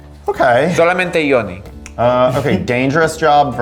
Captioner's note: speaking Spanish